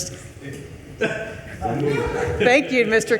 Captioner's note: attendees laughing